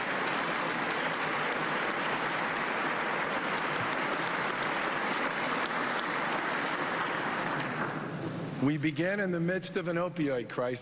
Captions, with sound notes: AND FAMILIES FINALLY HAVE HOPE. [ APPLAUSE ]